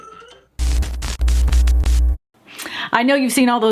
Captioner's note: funky music; static popping